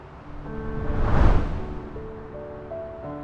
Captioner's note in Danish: whoosh